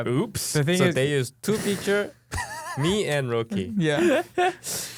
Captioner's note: laughing